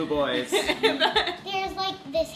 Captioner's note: laughing